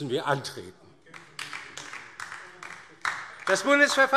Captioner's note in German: Beifall DIE LINKE - Zuruf AfD